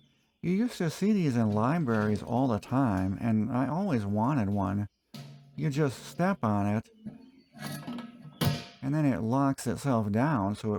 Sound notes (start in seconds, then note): 6.9 stepping sound